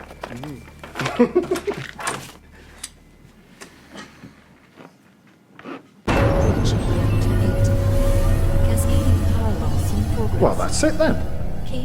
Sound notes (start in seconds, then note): 1.0 Jerry laughs